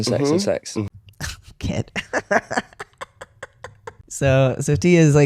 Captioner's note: laughter